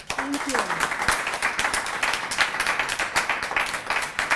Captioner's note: applause